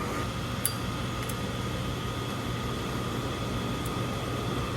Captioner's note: switch clicks, motor whirrs; distinct sound of a Zippo® lighter opening, flint striking